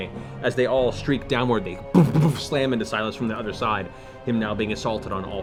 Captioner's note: impact noises